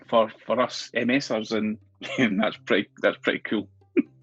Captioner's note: laughs